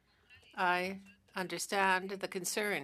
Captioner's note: speaking French